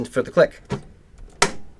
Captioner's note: click